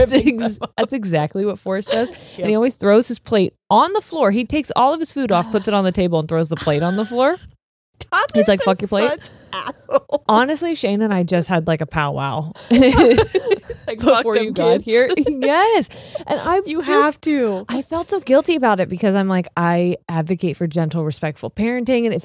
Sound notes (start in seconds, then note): 8.2 laughs; 12.6 both laughing